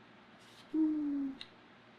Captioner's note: sighs